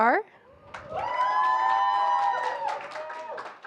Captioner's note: applause